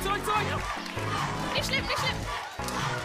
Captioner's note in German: Anfeuerungsrufe